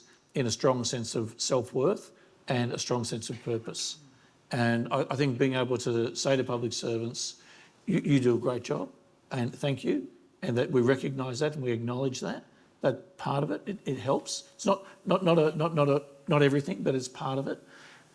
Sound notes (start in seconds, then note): none